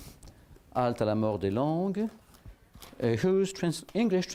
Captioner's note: non-english speech